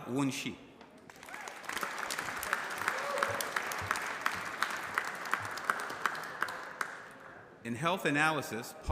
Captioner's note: applause